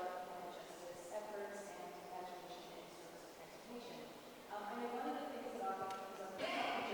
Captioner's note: murmurs